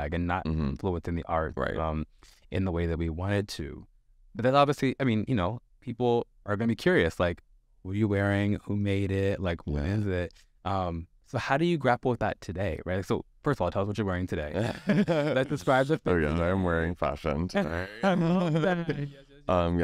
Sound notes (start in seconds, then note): 14.5 laughs